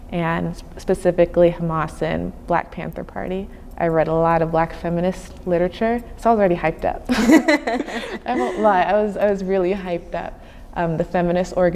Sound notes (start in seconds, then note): 7.1 laughing